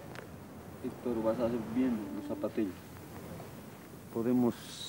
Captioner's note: quechua spoken audio